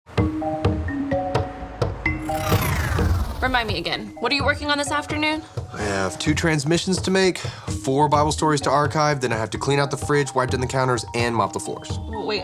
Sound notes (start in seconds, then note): 0.0 upbeat music; 2.2 computer swoosh